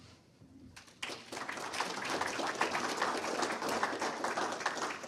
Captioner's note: audience applauding